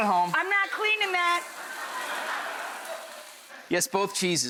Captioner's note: audience laughing